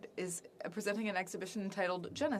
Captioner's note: speaking French